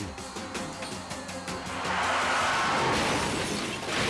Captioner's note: chaotic music; sirens blaring; truck crashing